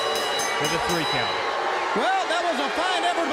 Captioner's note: bell ringing